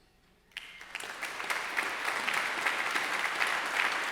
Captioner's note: graduates clapping